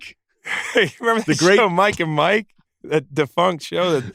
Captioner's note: laughs